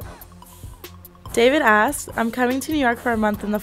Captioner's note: voiceover